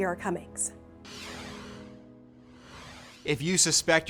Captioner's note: logo whooshes softly